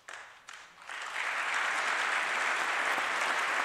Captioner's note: applause